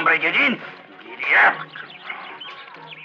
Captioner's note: speaking spanish